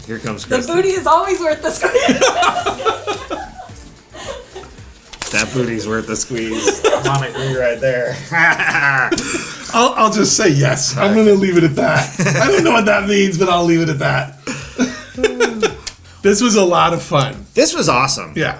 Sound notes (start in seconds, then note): 3.7 all laughing; 9.1 laughs; 15.6 laughs